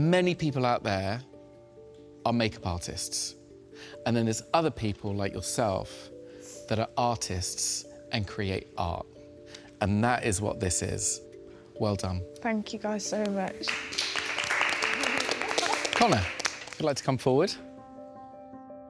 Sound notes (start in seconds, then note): 13.6 applause; 18.6 tense music